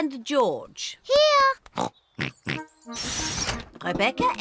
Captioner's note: both snort